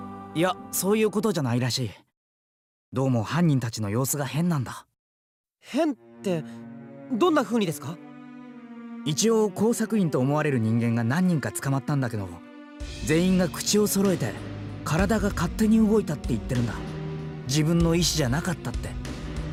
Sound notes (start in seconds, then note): none